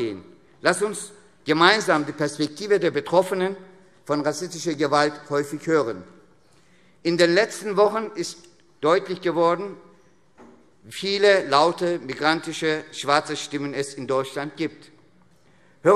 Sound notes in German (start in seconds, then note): none